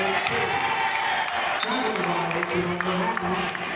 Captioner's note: whistling and cheering